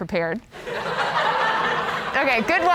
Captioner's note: virtual crowd laughing